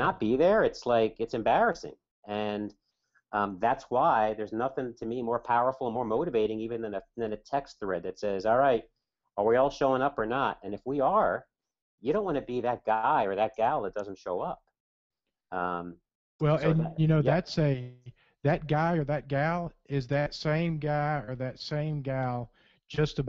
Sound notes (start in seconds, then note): 17.3 voiceover